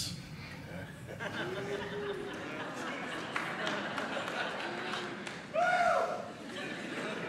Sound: congregation laughing and applauding

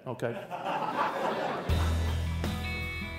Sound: laughter

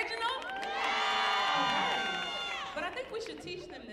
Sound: audience cheering

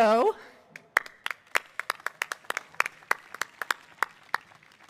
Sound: audience applauding

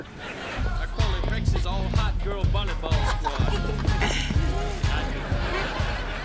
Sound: chattering

